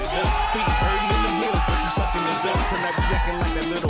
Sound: guests cheer

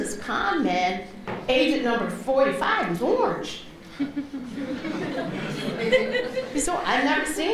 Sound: laughter

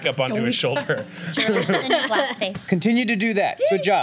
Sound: laughs

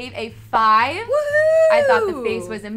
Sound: cheers

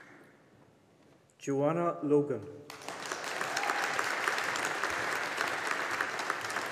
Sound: audience applauding

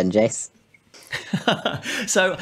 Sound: laughs

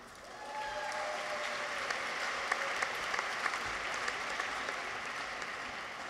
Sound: audience applauds; people cheer

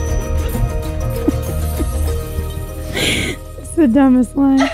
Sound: laughs loudly

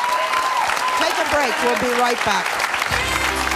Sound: cheering; upbeat music; clapping

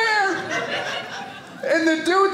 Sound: audience laughing

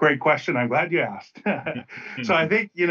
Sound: laughs

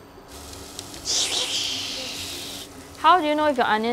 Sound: swish swish swish swish

